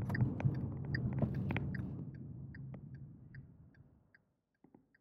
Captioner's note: turning signal clicking